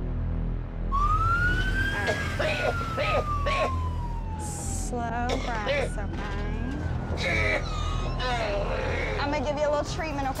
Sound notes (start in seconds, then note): 0.8 siren; 2.0 coughing; 5.2 hacking